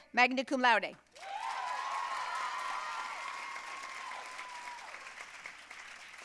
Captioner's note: audience cheering and applauding